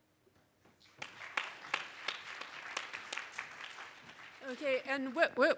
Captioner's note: audience applause